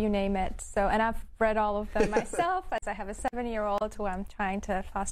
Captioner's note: laughs